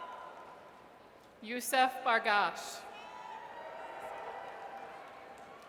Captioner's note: audience cheers; audience cheers